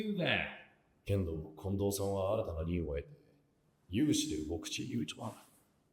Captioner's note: character speaking Japanese